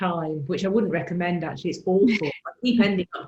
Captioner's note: laughs